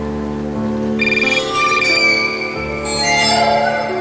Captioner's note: cell phone rings